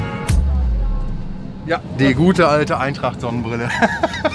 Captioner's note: laughs